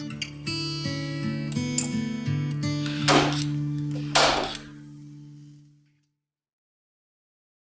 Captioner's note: relaxing music; tool tapping